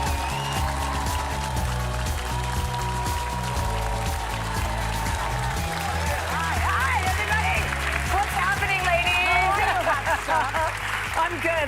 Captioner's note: cheers and applause